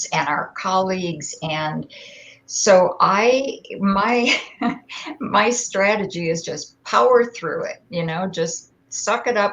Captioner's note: laughter